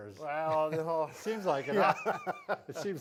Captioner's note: both laugh